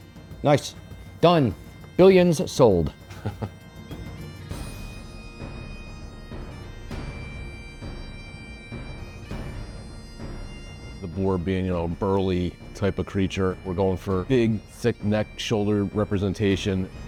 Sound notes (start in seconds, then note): 2.9 chuckles